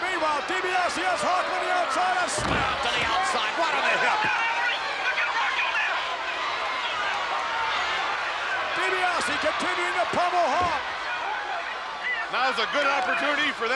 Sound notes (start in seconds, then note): 5.4 Jimmy shouts